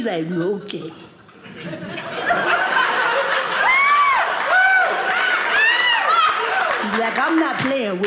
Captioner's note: audience laughing